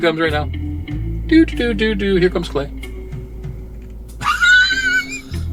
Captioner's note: laughing